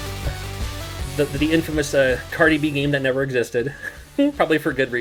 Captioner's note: chuckles